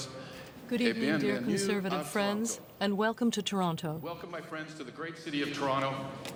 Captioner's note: speaking French